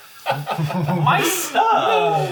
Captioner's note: all Laugh